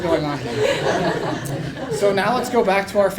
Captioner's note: laugh